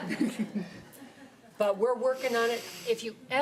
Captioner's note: laughing